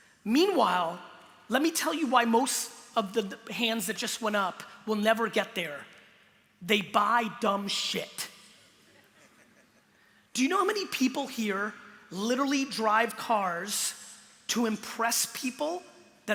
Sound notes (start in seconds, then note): 9.0 light audience laughter